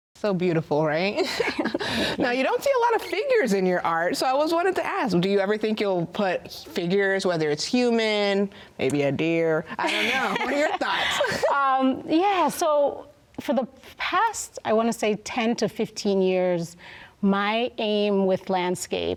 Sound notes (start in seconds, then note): 1.2 both laugh; 9.8 both laugh